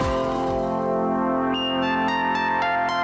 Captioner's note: humming; peaceful music